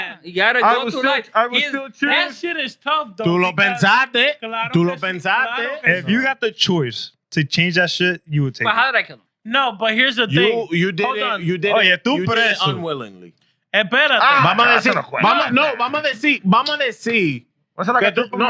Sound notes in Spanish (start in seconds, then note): 1.9 Hablando en idioma extranjero; 3.3 Hablando en idioma extranjero; 14.4 Hablando en idioma extranjero; 17.7 Hablando en idioma extranjero